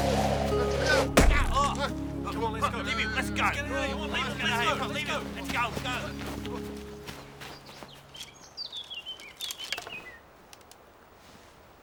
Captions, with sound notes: (men grunting) - Come on let's go. - Let's go. - Let's get out of here. - Let's go.